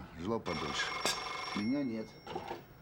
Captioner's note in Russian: Звонит телефон